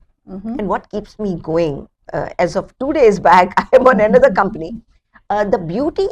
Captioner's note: laughs